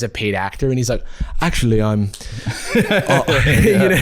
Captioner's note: British accent